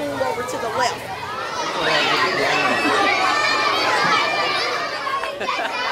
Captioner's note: kids chattering and yelling